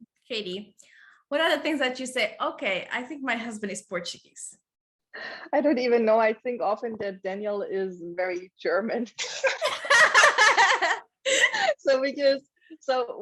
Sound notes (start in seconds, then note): 9.5 laughing out loud